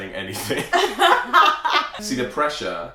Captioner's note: laughter